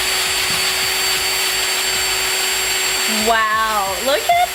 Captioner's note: drill whirring